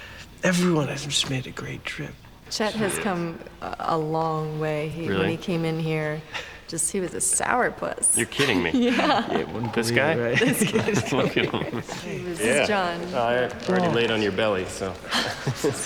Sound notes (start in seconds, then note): 10.1 laughter; 15.0 chuckles